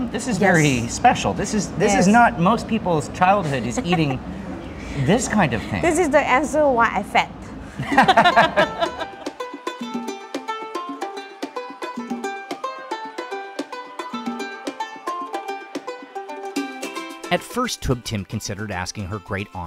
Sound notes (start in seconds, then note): 7.8 laughing